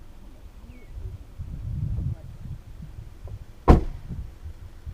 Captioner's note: birds chirping